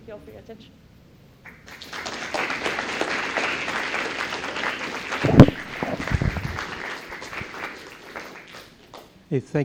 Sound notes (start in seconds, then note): 1.4 applause